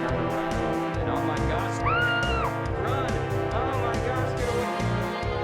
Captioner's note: scream